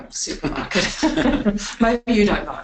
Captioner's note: both laughing